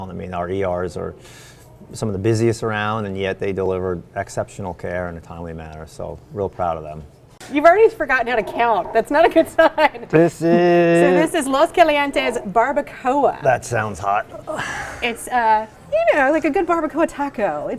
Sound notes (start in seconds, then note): 8.2 laughs